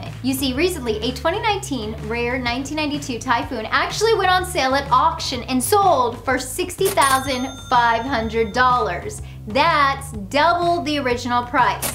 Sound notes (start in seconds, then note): 6.8 cash register dings; 11.7 cash register dings